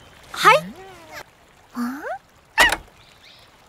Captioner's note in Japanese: ヒヤップの鳴き声